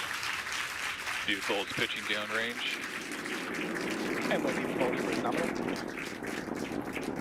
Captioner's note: cheers and applause